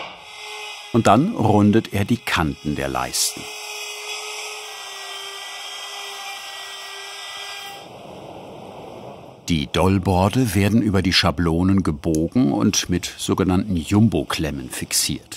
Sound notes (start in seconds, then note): 5.2 whirring